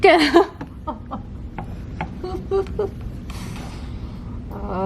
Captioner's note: laughter